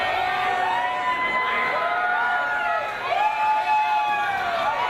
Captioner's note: people Cheering